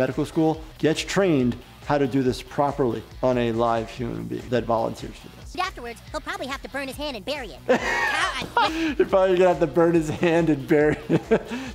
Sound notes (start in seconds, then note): 7.6 laughing